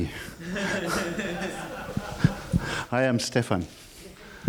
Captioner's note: laughing